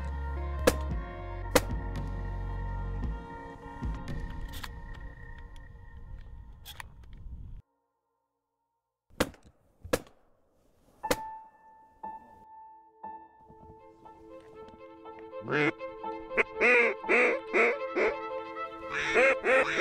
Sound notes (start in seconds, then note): 1.0 gunshots; 11.0 gunshots; 18.8 duck calls